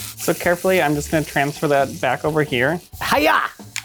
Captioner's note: none